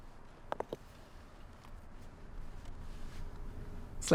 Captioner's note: scrape